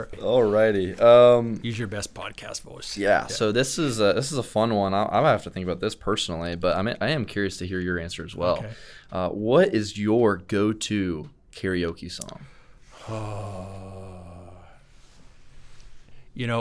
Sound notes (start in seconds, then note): 13.0 groaning